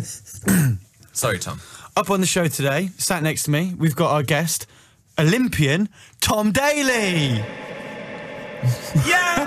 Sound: echo sound

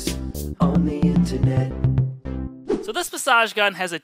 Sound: air whooshing

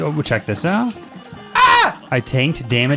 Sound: yells

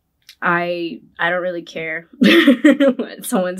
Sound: laughs

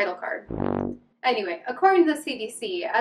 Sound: flat sound

